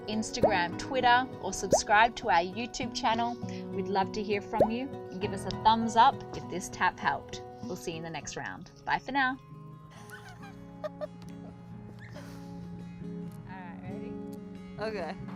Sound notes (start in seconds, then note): 10.0 giggles